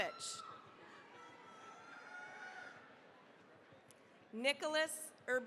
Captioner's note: cheering, applause